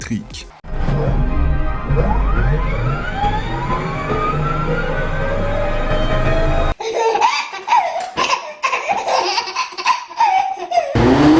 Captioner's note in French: bruit de perceuse VE et bruit de moteur thermique